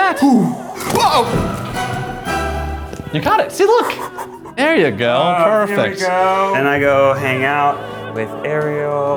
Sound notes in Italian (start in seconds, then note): 0.2 sospiro di sollievo; 3.6 ride